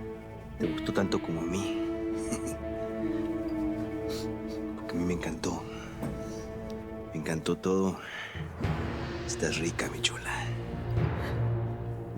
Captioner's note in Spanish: Risas